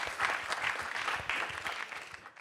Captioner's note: applause